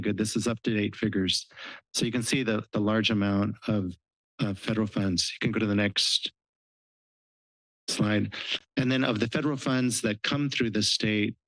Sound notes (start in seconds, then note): 8.2 sniff